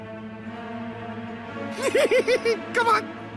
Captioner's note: giggles